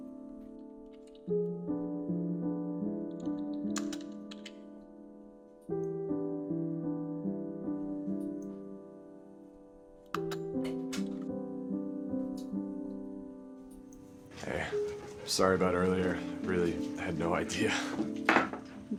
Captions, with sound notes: (keys striking) (door opening) - Hey, sorry about earlier. Really had no idea.